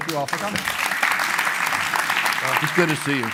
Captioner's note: applause